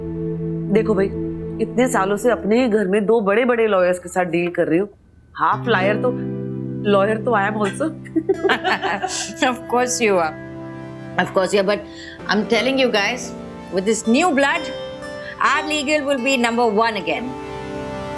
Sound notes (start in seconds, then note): 7.6 laughter